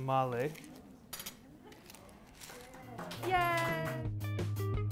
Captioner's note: clapping